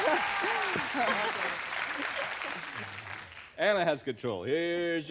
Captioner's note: applause